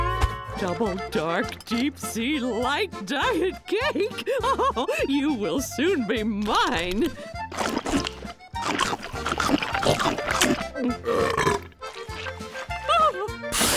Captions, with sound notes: Double dark deep sea light diet cake... [chuckles] you will soon be mine. [burping] Ah!